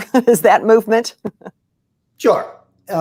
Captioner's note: chuckles; chuckles